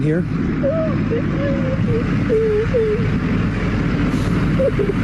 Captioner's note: woman crying